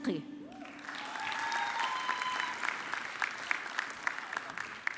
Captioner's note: audience clapping